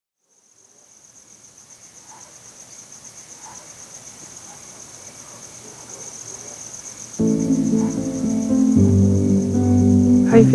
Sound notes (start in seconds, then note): 0.4 crickets chirping; 7.2 lively music